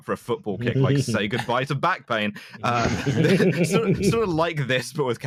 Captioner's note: laughter